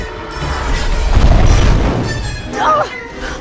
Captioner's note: explosion; Rey grunts